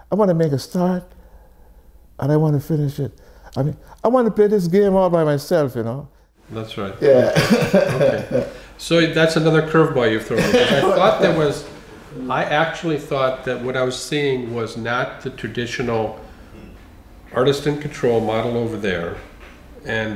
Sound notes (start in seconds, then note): 7.2 chuckles